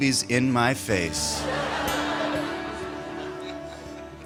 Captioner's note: laughter